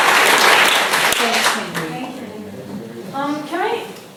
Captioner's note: echoing